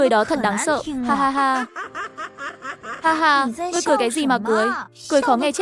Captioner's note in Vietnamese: tiếng cười